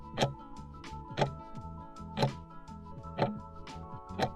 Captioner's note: timer ticking